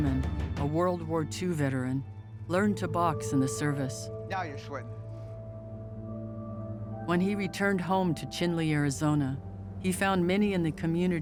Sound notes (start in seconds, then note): none